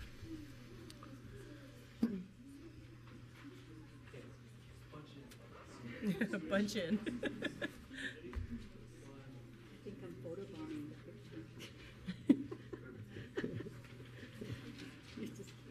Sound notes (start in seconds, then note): 9.0 laughs